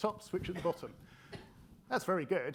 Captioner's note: attendee coughing